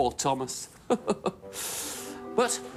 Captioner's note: mr perkins chuckles